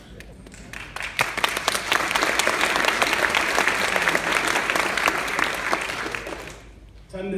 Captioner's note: applause